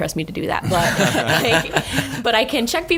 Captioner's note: laughing